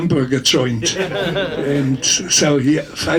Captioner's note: audience laughs